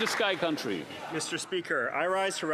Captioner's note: some Applause